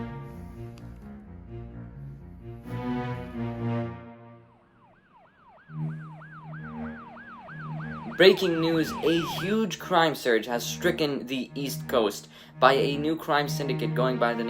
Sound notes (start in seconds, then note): 4.3 police Sirens